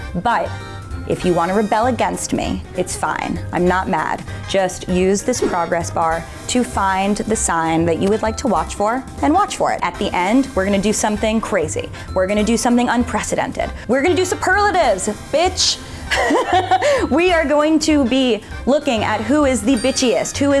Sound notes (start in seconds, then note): 16.1 laughs